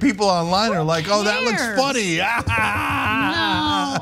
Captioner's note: laugh